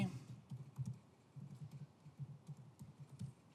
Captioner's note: typing sound